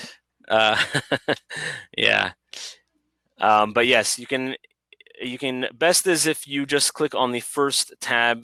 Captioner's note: laughter